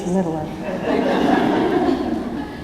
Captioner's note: laughter